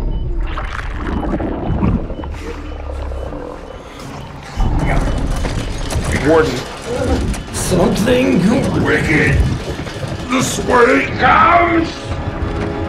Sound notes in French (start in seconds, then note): 7.3 voix déformée